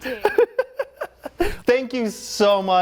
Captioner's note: laughing